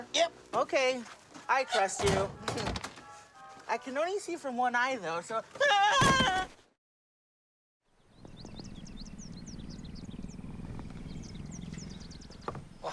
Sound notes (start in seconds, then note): 6.7 shouting; 9.0 Snowball purring